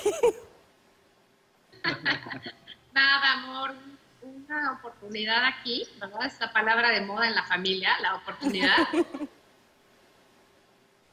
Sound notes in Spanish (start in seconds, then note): 4.4 Risas